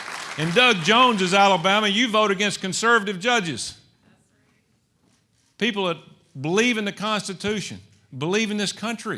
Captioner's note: applause